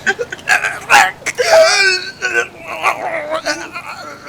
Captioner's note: gasps